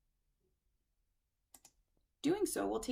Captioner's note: click